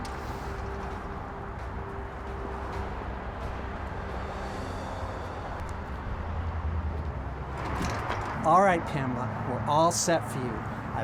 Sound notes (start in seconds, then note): 0.0 traffic whooshing; 0.0 dramatic music continues; 7.5 door rattles